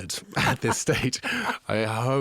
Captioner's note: laughing; interviewer laughing